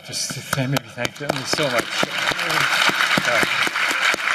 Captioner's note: applause